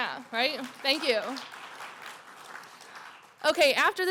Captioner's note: applause